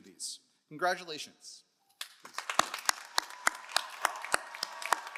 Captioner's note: all applauding